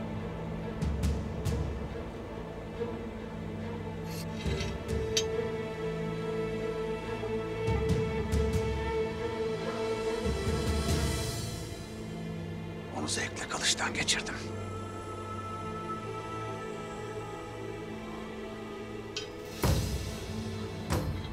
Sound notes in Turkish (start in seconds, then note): 4.1 Kılıç sesi; 6.0 Müzik - Gerilim